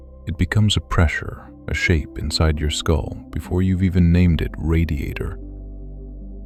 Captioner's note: gentle, slower now